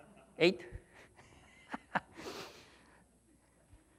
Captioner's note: laughs